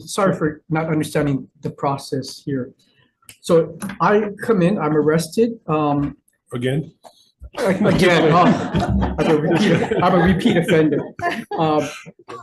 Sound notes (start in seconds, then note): 7.5 group laughing